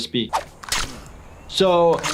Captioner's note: ripping